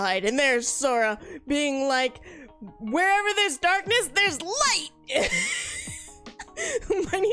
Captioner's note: laughs